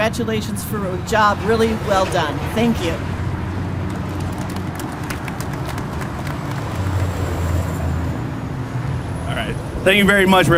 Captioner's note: clapping